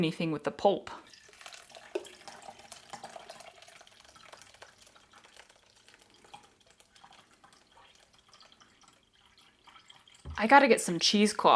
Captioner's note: pouring noise